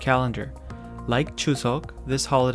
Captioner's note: speaking in Korean language